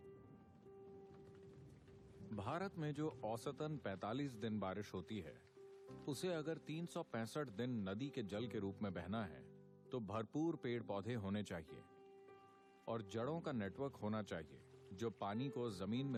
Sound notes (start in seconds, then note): 11.8 applause